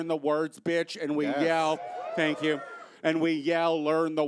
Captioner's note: audience cheers